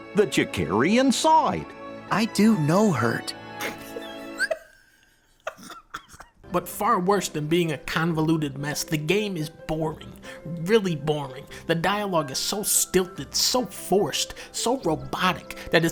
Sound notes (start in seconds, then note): 3.6 laughs